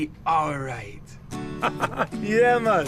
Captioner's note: laughter